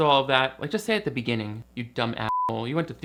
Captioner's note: beep